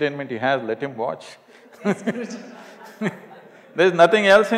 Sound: laughter

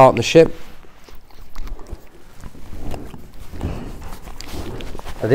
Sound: licking sound

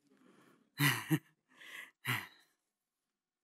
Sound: chuckling

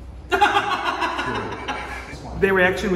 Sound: laughs

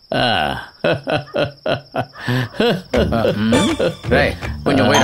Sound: laughs

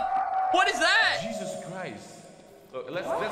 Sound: ghastly wailing

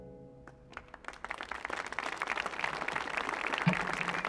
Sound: audience clapping

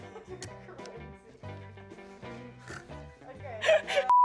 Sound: laughs

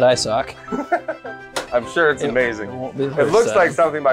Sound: laughs

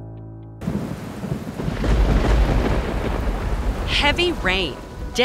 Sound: distant Thunder

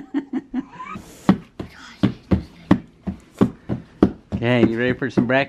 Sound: laughs; boots stomping

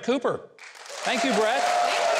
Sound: audience applauds

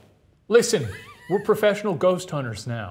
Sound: laughs

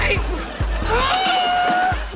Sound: grunting

